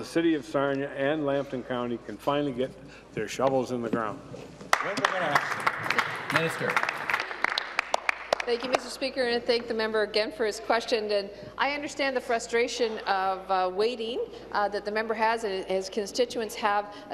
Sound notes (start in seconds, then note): 9.0 applause